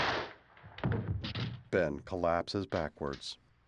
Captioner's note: gunshot